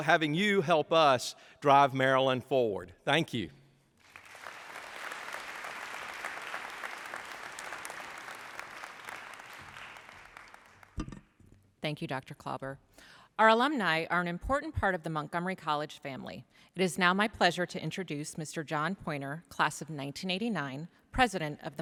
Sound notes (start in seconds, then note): 4.0 applause